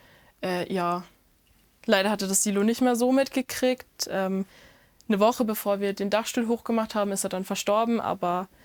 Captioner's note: none